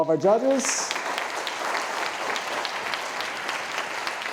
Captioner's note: audience applauding